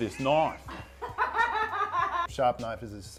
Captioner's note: cackles